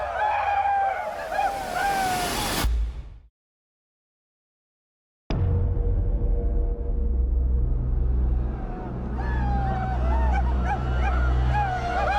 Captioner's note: all howling